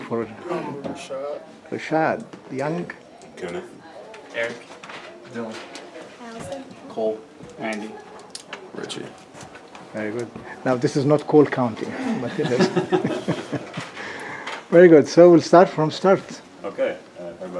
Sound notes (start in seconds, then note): 12.0 laughter